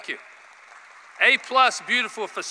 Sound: applause

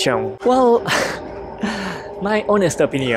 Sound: huffs

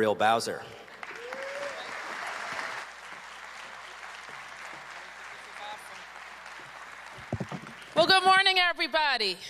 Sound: cheers and applause

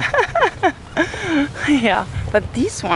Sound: laughs

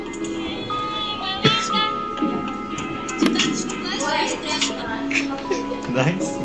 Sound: tiktok sounds

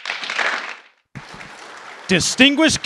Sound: applause

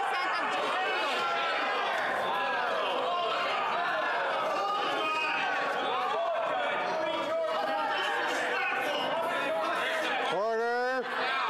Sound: yelling

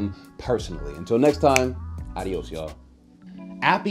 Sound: snapping

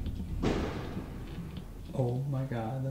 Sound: loud banging

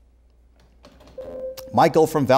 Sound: beeping

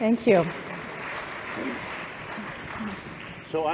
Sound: applause

